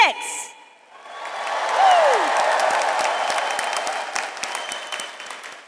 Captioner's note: audience applauds